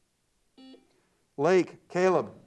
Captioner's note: buzzer beeps